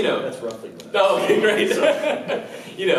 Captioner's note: laughs